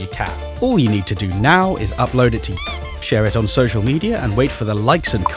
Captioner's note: squeaky toy